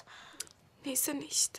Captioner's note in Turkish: none